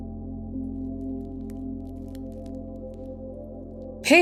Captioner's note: crinkly plastic noise from ball